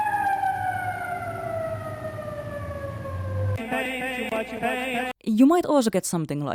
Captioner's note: ambulance siren